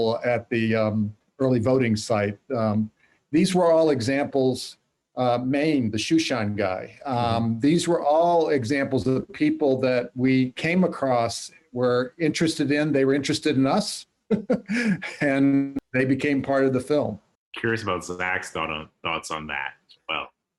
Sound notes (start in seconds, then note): 14.3 laughs